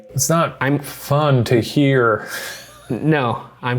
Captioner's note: laughs